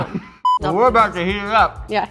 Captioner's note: beep